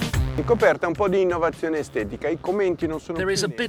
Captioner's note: man speaking Italian